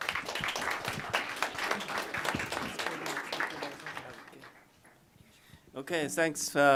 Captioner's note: applause